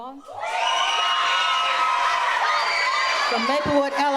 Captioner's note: audience cheers